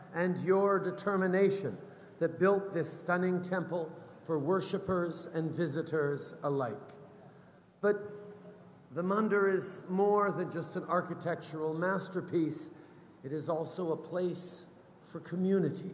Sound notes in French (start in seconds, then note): none